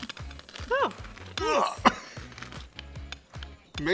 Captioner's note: groans